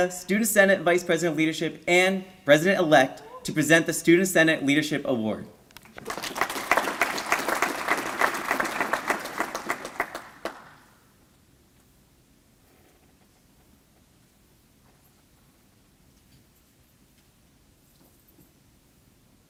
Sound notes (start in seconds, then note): 5.8 applause